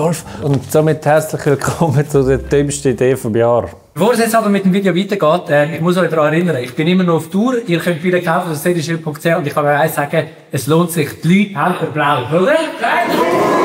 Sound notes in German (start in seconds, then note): none